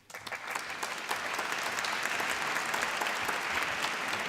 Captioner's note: applause